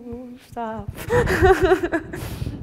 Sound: laughs

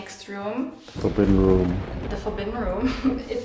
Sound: thunder crashes; chuckles

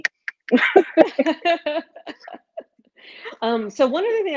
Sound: laughing

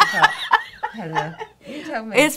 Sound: laughing

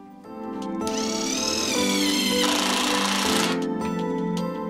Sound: drilling

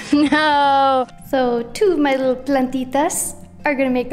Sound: speaking in Spanish

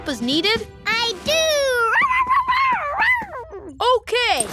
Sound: howling

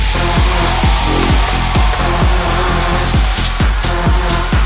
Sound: crowd cheering

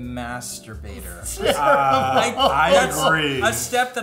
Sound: laughing

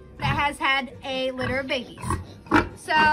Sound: pig snorting

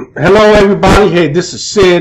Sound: clears throat

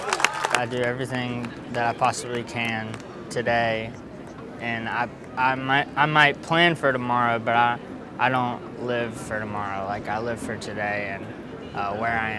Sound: applause

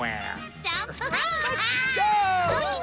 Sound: laughing

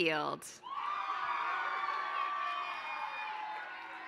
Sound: applause

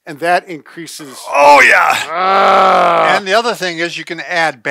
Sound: growls

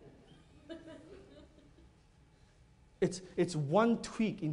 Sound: laughter

